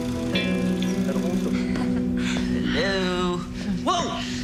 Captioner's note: distant giggling